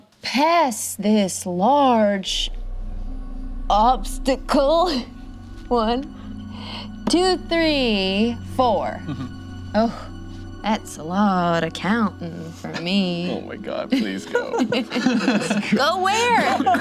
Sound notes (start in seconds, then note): 13.9 group laughs